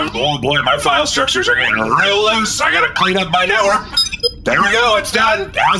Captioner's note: beeps